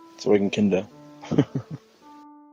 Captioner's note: laughs